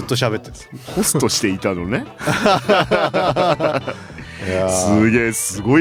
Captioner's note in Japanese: 笑い